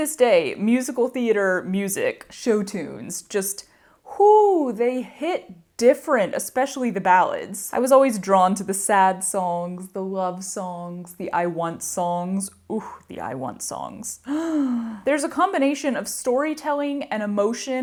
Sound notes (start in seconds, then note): 14.2 dramatic inahle